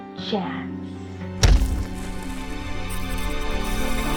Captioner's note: bang; intense music